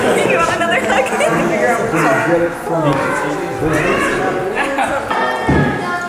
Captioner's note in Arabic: يضحك